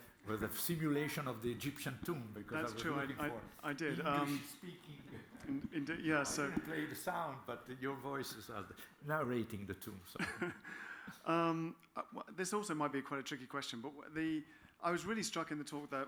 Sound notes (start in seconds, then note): 5.0 chuckles; 10.2 laughs